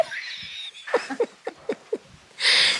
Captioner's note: laughs